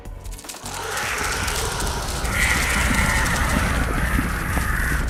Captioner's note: bugs screeching